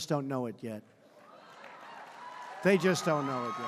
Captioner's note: applause